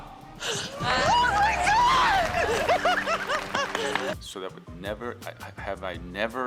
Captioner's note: contestants applaud